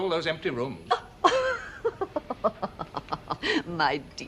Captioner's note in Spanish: Risas